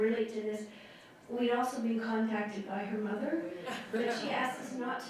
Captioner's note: laughter